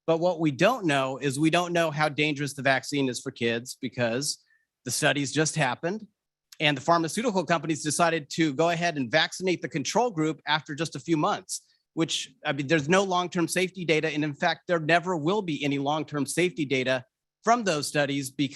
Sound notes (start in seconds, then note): none